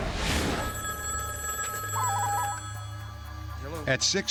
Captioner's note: phone ringing